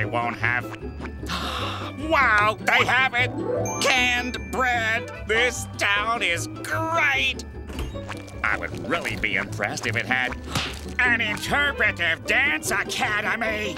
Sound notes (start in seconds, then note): 1.2 gasping